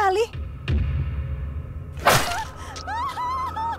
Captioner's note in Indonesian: terdengar suara tebasan parang dan suara Ibu Rahayu yang panik dan menangis